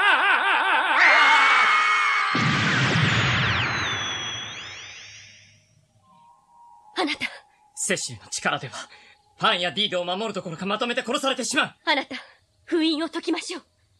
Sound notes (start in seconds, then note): 0.0 SFX: screams; 2.4 SFX: sound of magic